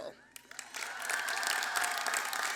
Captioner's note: applause